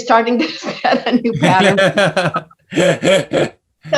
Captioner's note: laughs